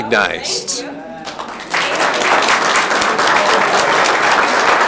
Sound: audience clapping

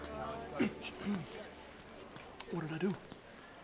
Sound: clearing throat

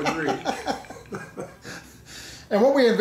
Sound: laughing

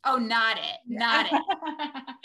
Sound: laughs

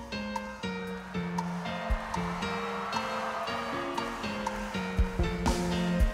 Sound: audience cheers and applauds

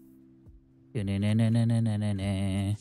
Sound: humming

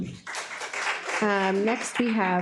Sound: audience applauds

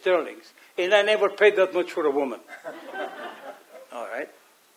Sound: audience chuckles

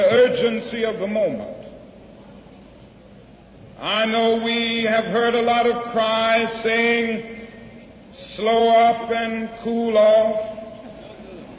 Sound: laughter

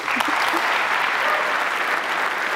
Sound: applause

